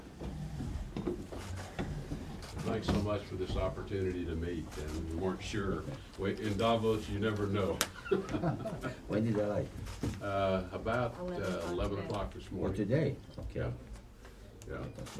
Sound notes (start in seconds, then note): 7.9 laughter